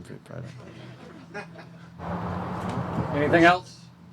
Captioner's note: audience chuckles